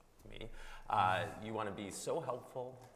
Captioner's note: chuckles